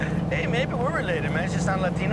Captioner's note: chuckles